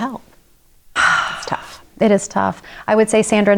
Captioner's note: sighs